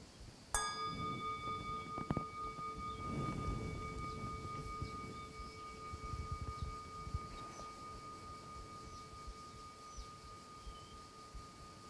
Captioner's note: bells